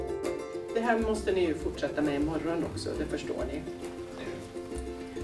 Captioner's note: speaking native language